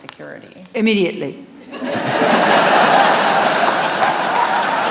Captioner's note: audience laughs